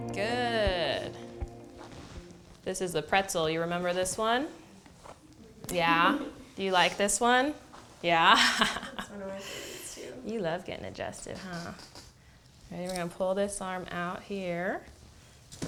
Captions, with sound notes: Good. This is the pretzel. You remember this one? Yeah? Do you like this one? Yeah? [Laughter] You love getting adjusted, huh? And you're going to pull this arm out here.